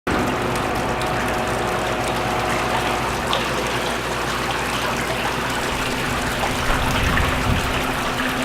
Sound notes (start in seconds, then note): 0.0 machine running; 0.3 water dripping